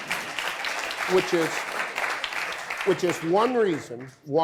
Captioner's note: audience applause